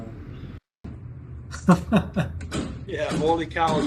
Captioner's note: laughing